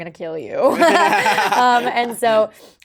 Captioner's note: laughing